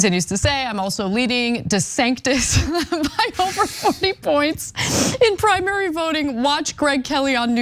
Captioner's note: laugh